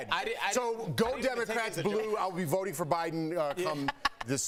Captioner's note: laughter